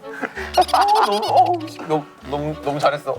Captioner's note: laughing